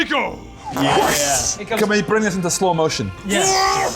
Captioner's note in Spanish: ¡Booosh!